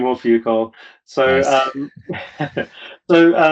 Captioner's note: laughs